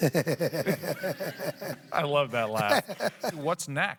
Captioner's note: laughs